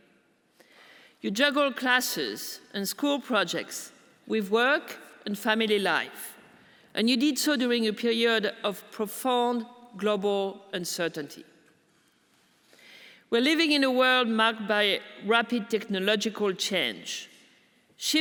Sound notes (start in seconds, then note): none